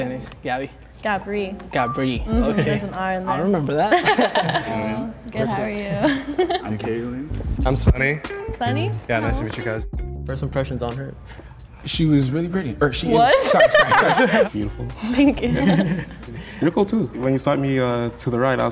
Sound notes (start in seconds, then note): 3.8 both laughing; 13.2 laughs